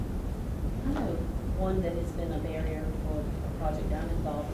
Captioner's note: voiceover